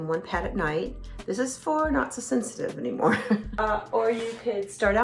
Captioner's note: chuckles